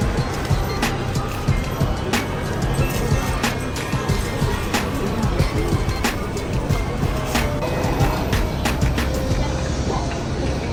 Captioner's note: night market crowds and street bustle